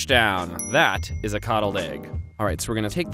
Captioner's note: dings